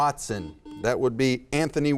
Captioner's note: buzzer beeps